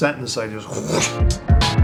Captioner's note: imitates paper whooshing